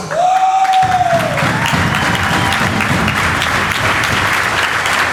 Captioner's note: audience applauds